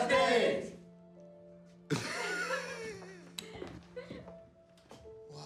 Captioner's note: laughs